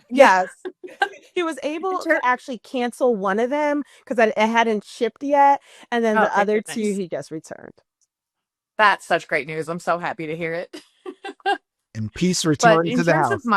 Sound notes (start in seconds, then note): 11.1 laughs